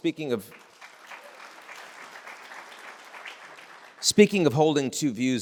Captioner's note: audience applauds